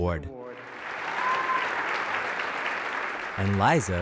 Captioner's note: applause